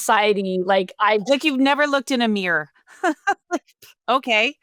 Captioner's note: laughs